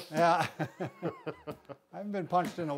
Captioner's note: laughing